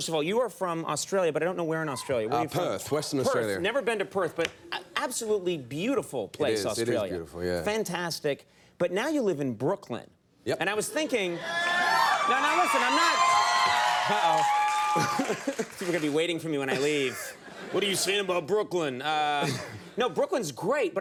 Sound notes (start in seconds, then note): 13.4 audience cheering